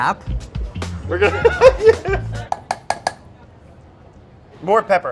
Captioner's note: laughs